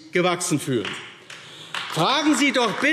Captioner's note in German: Beifall AfD